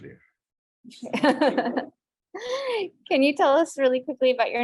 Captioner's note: laughs